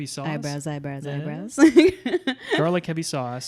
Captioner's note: laughs